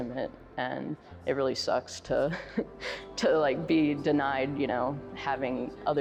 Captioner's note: chuckles